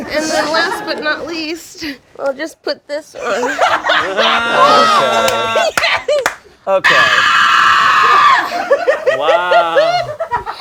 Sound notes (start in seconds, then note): 5.1 laughs and claps; 6.9 screams